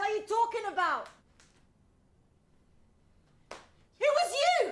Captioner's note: Devon snaps fingers